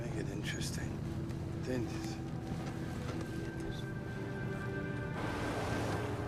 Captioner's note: Roland speaking in Spanish